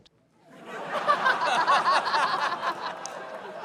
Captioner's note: laughter